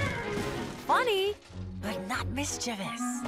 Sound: whinnying

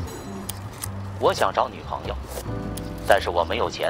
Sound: in Mandarin

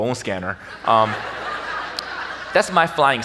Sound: audience laughs

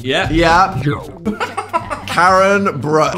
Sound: laughing

